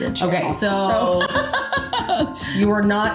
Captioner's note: laughing